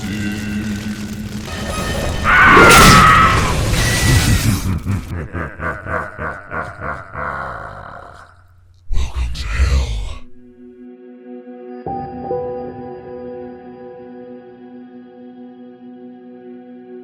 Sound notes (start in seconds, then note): 2.0 screaming; 2.2 skin cracking; 4.5 eerie laughing; 10.8 eerie music